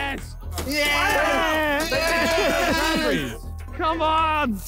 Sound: all exclaiming

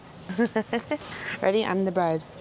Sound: laughs

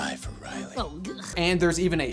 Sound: upbeat music; Joy gags

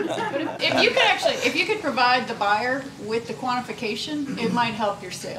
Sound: laughter

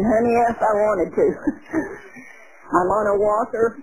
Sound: chuckling

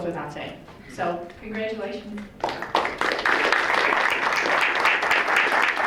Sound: crowd applauds

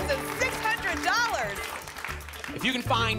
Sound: applause

